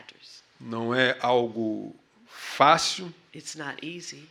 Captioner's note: speaking portuguese